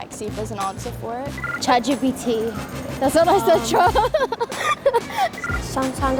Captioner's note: laughs